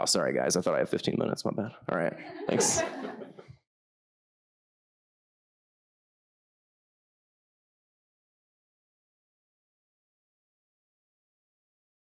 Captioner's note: audience laughter